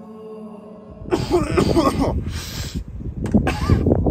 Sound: coughing

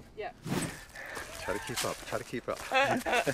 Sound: Lindsey laughs

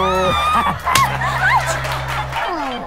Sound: slap sound

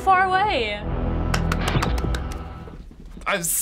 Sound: claps giddily

